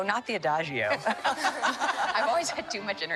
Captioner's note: laughter